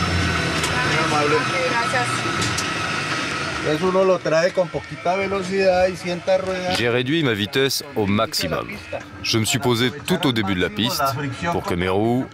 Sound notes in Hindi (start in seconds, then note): 1.2 स्पैनिश बोलते हुए